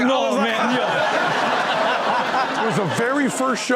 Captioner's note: audience laugh; chuckles